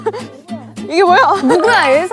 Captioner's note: murmuring